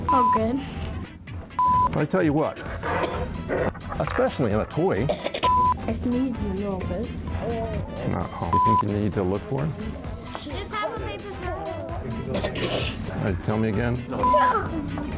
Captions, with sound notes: It's all good. I tell you what... Especially in a toy! [COUGH] I'll sneeze in a little bit. Nah! Do you think you need to look for him? [CHATTER] Alright, tell me again.